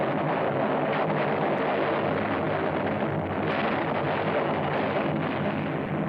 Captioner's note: explosions